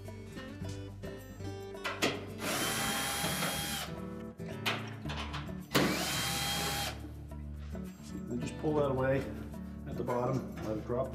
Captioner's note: drilling sound